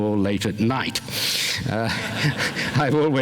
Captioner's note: laughter